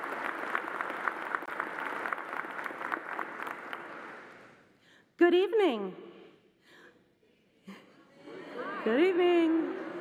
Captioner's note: applause